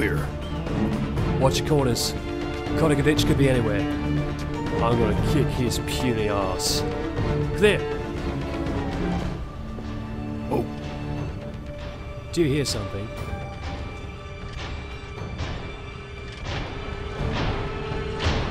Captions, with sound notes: Watch your corners. Kotickovich could be anywhere. I'm gonna kick his puny ass. Clear! Whoah. Do you hear something? (industrial noises)